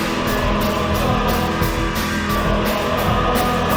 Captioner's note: humming